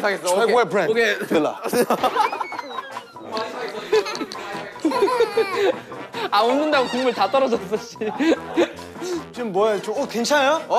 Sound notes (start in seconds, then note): 1.4 laughing out loud